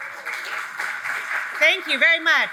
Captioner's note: audience applauds